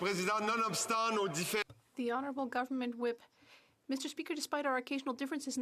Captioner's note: speaking French